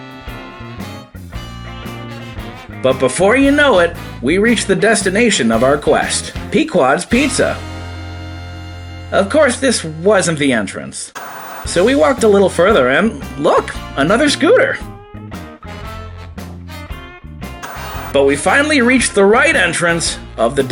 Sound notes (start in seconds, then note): 0.1 soft jazz music; 11.1 TV Static; 15.2 soft jazz music; 17.6 TV Static